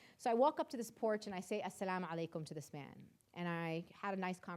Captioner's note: speaking in foreign language